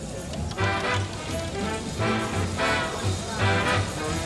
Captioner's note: crowd chattering